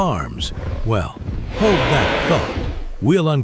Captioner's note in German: Brüllen